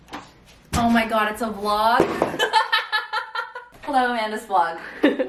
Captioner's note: laughs